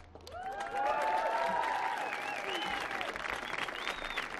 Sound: audience applauding

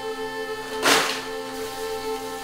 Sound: oyster shells clatter; water burbling

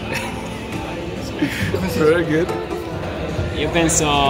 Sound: laugh

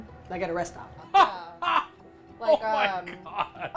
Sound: laughs

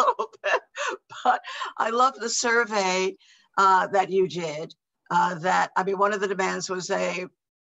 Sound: laughs

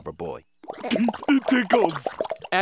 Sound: giggling

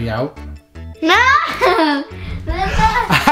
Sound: laughs

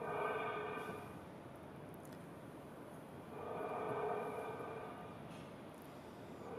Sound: rhythmic breathing continues

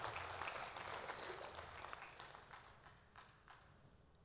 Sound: applause

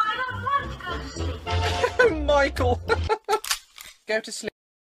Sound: laughs more; laughs

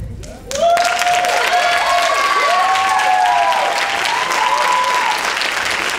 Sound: audience applauding and cheering

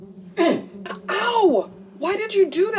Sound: grunts

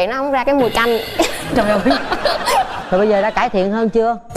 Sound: laugh

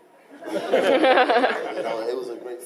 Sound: laughing

